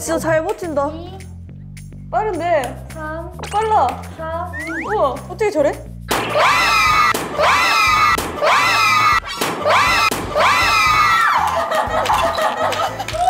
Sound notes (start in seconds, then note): 8.4 screaming; 8.4 screams